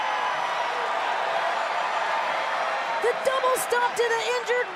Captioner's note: crowd cheering